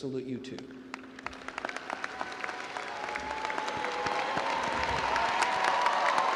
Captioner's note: crowd cheering and applauding